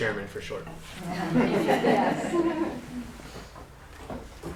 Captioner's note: laughter